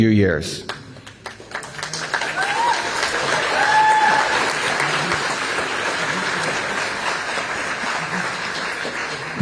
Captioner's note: applause